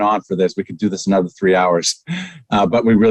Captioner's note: chuckles